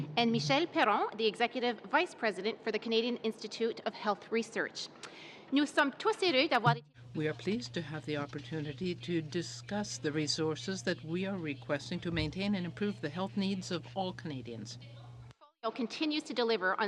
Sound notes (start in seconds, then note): 11.7 speaking in french